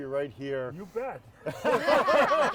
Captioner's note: group laughs